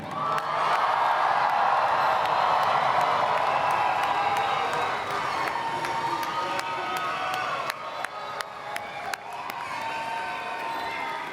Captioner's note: applause